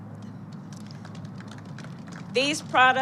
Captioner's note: applause